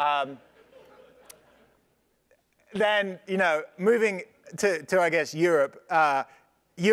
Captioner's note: laugh